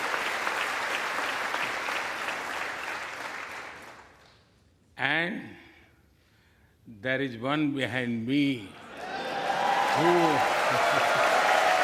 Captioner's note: applause